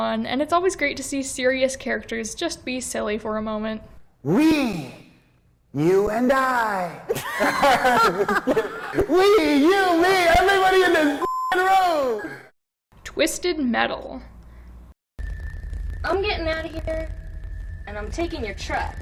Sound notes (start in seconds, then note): 7.0 laughs